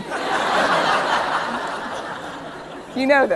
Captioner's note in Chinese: 笑聲